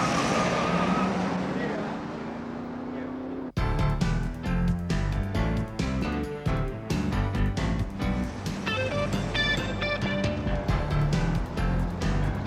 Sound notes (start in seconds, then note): 0.5 murmuring; 2.7 upbeat music